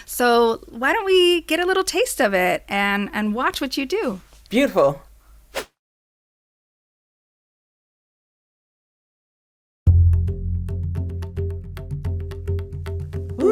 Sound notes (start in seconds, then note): 5.4 silence; 9.8 mellow R&B music